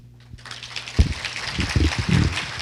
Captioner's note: applause